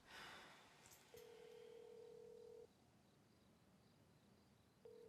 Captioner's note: phone line ringing